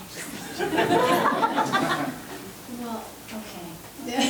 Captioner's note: members laughing